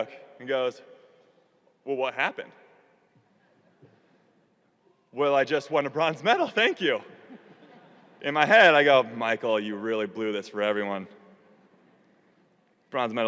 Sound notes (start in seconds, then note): 3.0 audience laughing